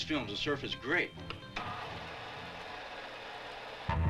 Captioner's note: projector rattling; upbeat surfer music